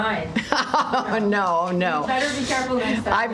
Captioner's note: laughter